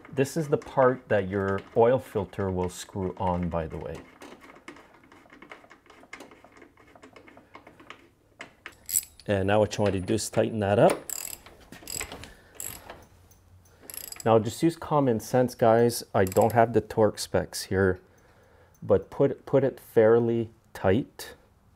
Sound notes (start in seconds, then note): 4.6 nut turning; 11.5 wrench clicking